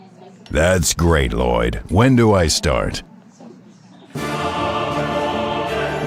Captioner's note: deep, resonant, human voice